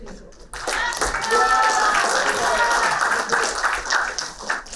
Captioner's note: applauding